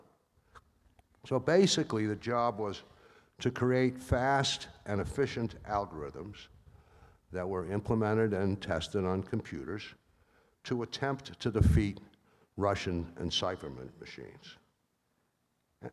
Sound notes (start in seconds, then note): none